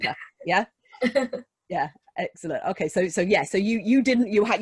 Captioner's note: giggles